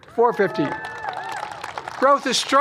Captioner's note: applause